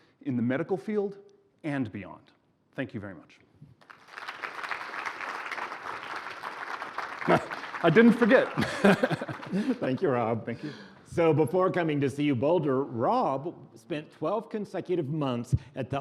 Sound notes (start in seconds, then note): 3.8 applause; 8.4 laughing